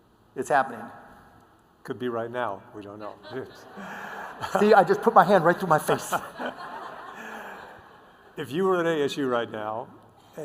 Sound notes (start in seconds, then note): 5.8 laughter